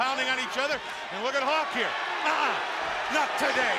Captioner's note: crowd cheering